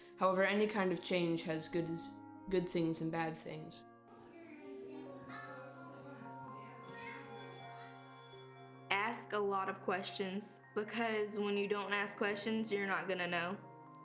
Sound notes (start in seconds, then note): 4.0 children chattering; 6.4 school bell rings